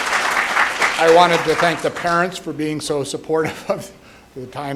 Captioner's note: applause